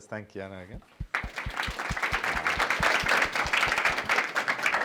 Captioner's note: applause